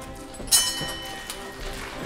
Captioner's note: bell clangs; applause